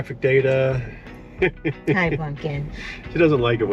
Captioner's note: laughs